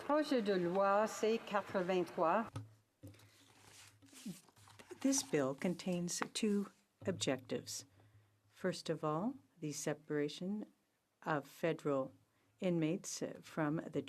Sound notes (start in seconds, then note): 6.6 speaking french